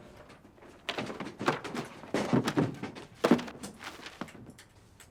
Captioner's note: objects thudding